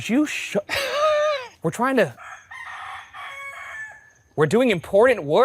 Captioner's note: rooster crows